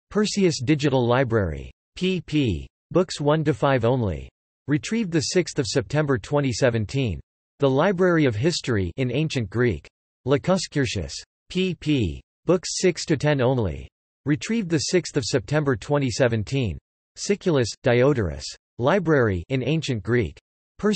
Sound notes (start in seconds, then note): 9.2 in Ancient Greek; 19.3 in Ancient Greek